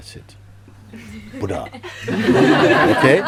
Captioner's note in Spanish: Risas